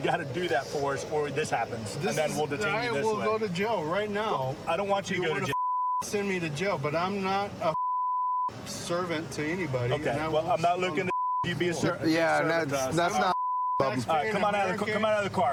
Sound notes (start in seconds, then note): 13.1 chatter